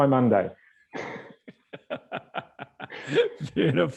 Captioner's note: laughing